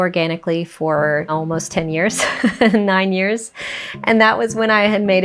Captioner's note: laughing